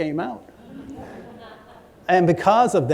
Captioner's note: laughter